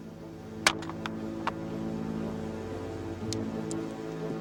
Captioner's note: jade crunching